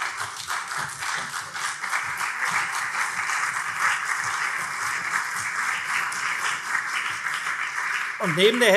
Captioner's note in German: Beifall CDU und SPD